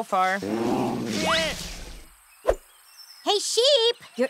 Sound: bear growls; sheep yelps

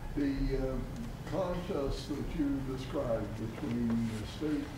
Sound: speaking off mic

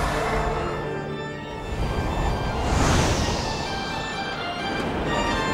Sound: wind whooshes

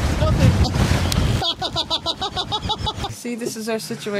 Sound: laughs

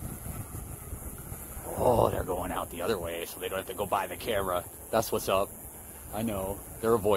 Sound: Dark muppet voice

